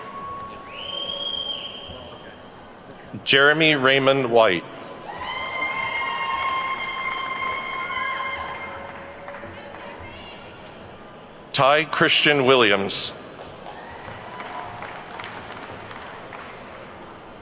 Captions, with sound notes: Jeremy Raymond White. (attendees whooping and clapping) Ty Christian Williams. (attendees clapping)